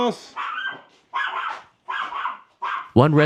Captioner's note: dog barking